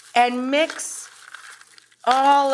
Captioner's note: salad and chips crunching